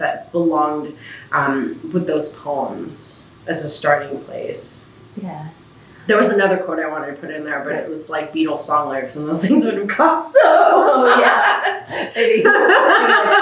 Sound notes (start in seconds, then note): 10.7 laughter